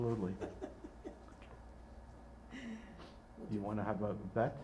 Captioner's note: laughing